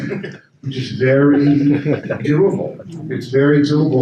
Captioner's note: attendees laugh